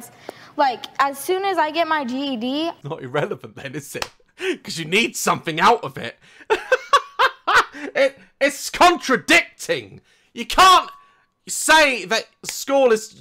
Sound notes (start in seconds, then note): 2.7 laughs; 6.4 laughs